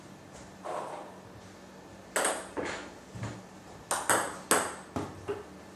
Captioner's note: balls ping pong hitting continues